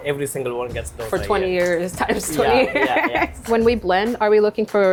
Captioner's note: laughs